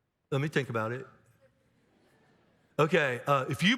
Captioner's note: audience laughs